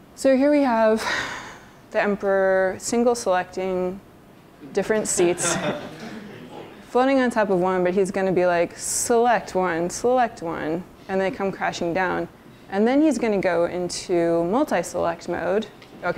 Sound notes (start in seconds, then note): 5.0 laughter